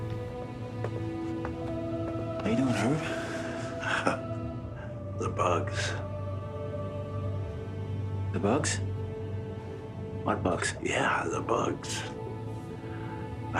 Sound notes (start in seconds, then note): 3.7 chuckles